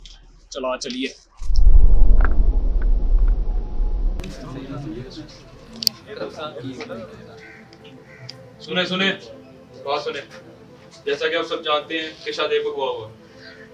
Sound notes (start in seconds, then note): 4.2 crowd talking